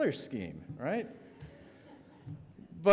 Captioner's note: audience laughs